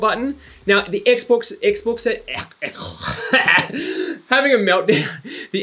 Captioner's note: grunts